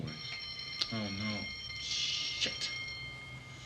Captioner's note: bell rings